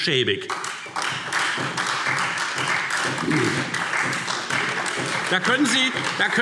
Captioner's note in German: Beifall Freie Demokraten und SPD